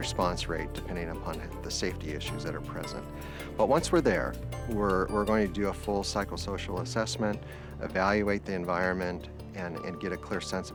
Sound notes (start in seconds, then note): none